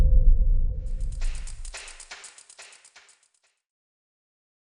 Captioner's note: mysterious sound effect plays